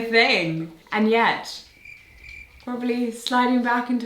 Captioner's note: crickets chirp